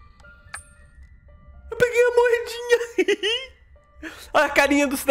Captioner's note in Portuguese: risos